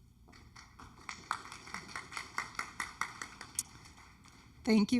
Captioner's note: audience clapping